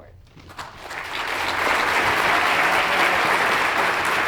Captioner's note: audience applauds